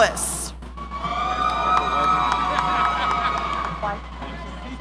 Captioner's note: audience cheering